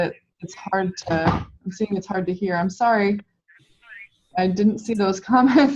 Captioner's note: door shut; laughing